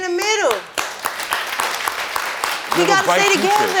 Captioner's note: audience applauding